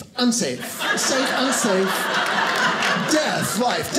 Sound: audience laughing

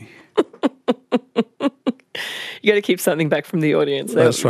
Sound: laughs

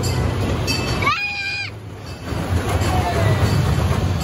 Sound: Rudicoaster zooms

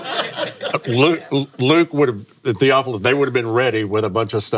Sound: laughs

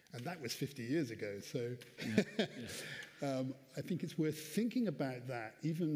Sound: laughs

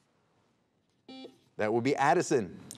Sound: buzzer beeping

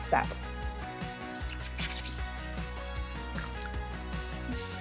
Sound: upbeat music; gloves squeaking

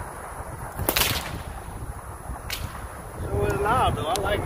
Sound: whip cracks

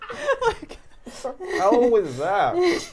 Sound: laughing

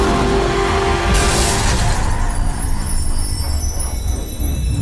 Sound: car engine revving; glass shattering

